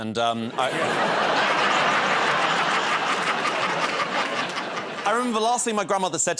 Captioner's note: laughter